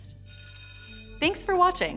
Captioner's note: bell ringing